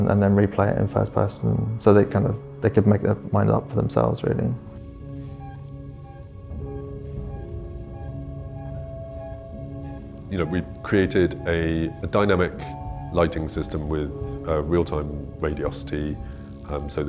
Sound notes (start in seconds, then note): 5.6 beeping; 7.1 tense music